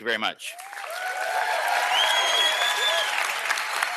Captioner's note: applause, whistles